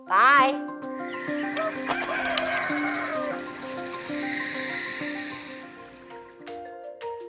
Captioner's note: snake hisses; rooster crows; bright music